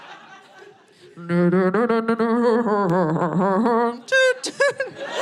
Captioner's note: audience laughing; humming